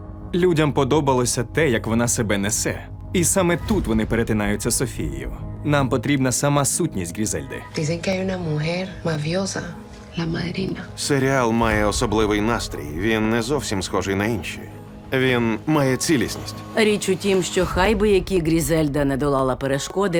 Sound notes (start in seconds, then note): 0.1 in English; 7.4 woman 2, in Spanish